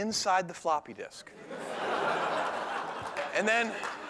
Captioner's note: laughter